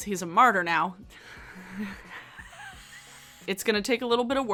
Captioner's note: laughing